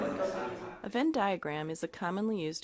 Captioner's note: voiceover